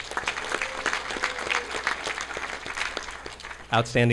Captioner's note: audience clapping